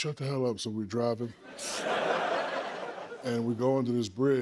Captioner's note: laughter